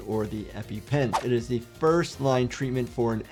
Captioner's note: video whooshes